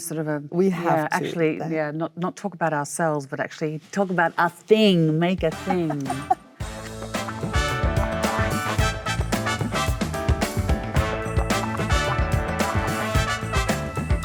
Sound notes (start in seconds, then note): 5.3 upbeat music; 5.5 Michelle laughs